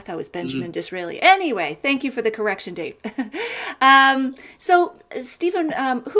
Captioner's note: laughs